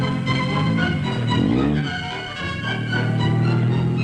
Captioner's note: engine rumbling